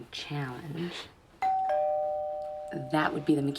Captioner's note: doorbell rings